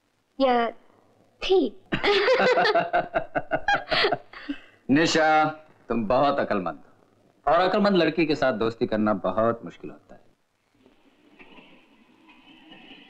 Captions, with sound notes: Or was she there? (Laughing) Nisha, you're very clever. And it's very difficult to be friends with clever girls.